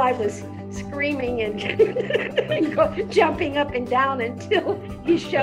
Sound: laughs

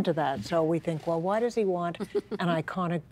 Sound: laughing

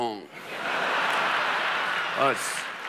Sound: audience laughing

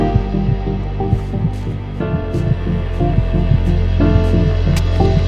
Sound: heart thumping

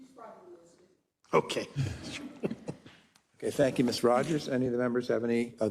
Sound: laugh

